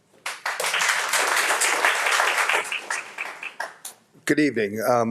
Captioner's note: audience applauds